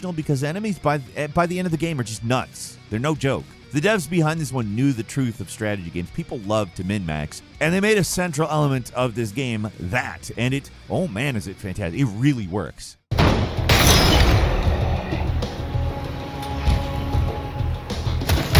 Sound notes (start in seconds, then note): 13.1 explosion booms; 13.2 gun blasting; 15.1 upbeat dramatic music